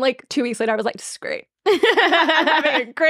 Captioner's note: laughing